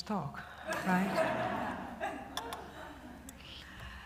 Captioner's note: laughter